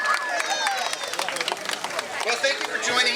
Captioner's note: crowd cheering